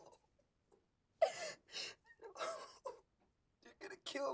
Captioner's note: crying